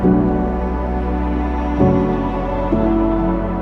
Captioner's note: none